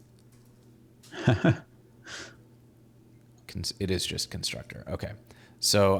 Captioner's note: laughing